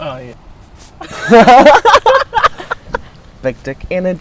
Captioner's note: laughing